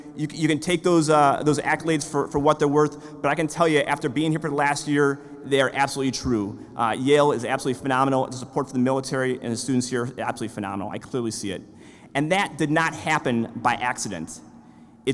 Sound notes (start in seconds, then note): none